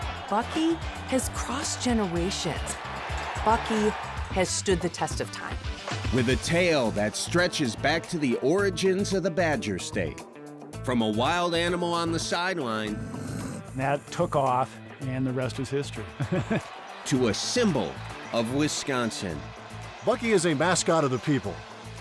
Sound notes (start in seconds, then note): 12.9 badger growls; 18.9 laughs